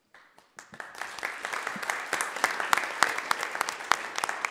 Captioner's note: everyone applauds